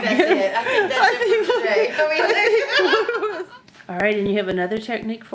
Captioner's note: women laughing